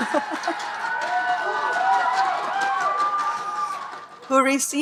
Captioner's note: speaker laughing; audience cheering and applauding